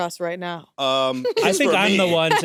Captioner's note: laughs